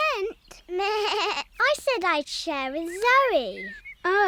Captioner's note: bleats